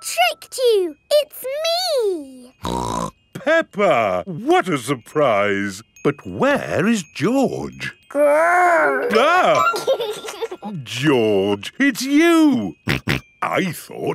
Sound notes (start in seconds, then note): 2.8 snorts; 8.6 giggles; 9.8 exclaims; 12.9 snorting